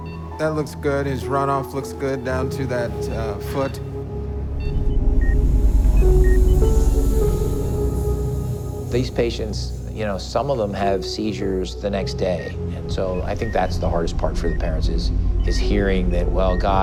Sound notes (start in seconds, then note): 4.5 machine beeps